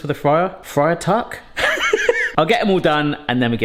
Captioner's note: laughs